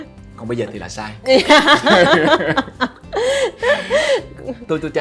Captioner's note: laugh